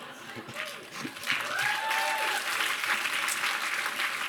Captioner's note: applause